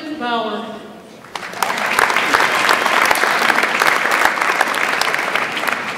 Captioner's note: audience applauds